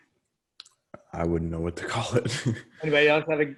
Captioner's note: chuckles